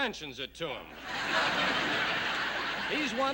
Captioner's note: laughter